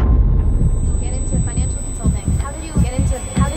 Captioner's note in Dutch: echo